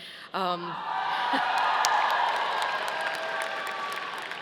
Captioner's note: audience applauding